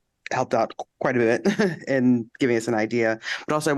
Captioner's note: laughter